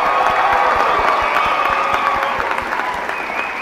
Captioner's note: applause